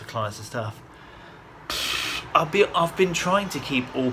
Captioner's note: blows air